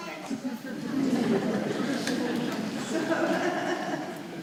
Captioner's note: audience laughing